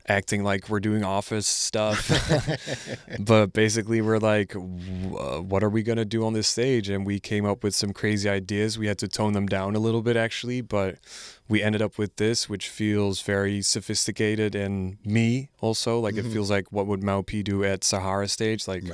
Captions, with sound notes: acting like we're doing office stuff. (laughing) But basically we're like, what are we gonna do on this stage? And we came up with some crazy ideas. We had to tone them down a little bit actually, but we ended up with this, which feels very sophisticated and me also. Like it feels like what would Maupe do at Sahara stage?